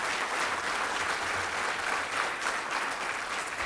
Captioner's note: applause